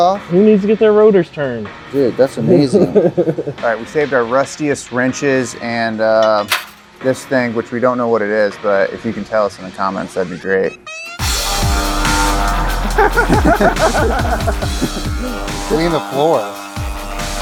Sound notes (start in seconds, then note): 10.9 laser whizzing